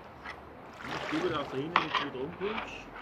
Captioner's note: quiet conversation